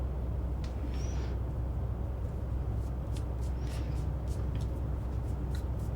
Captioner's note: air conditioner humming continues